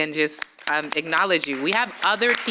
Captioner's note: applause